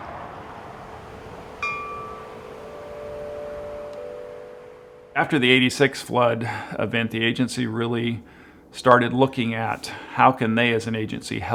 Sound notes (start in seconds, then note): 1.2 chimes ringing